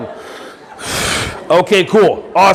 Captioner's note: everyone breathing in and out